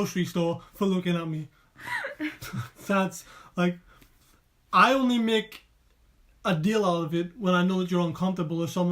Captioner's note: laughing